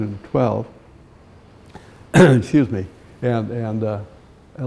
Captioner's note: clears throat